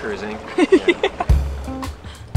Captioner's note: laughs; uplifting music